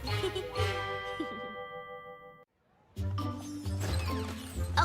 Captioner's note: chuckleses